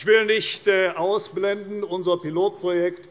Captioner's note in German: none